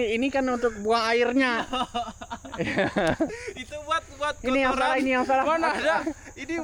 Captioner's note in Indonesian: tertawa